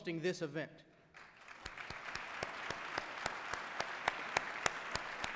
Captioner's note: applause